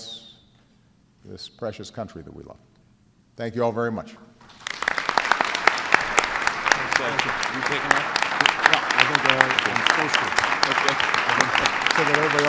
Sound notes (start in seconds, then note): 4.5 applause